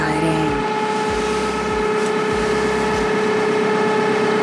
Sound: loud whirring

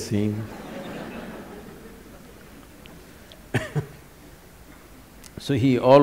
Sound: laughter

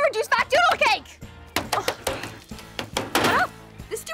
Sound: thudding

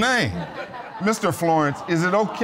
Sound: audience laughing

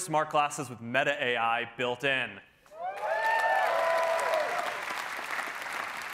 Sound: cheering

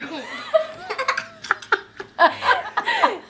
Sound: laughing

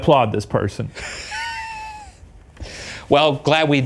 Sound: laughs

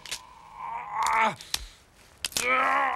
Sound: groaning

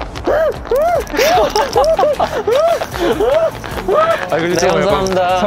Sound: laughing

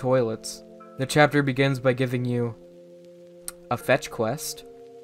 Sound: tounge click

